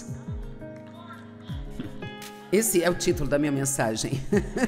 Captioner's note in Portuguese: risos